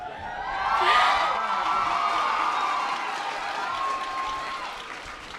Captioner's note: audience applause